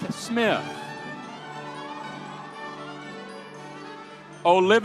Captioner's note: audience cheering